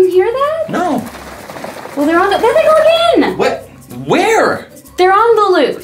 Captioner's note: rumbling in the background